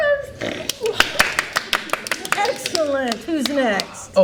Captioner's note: all applaud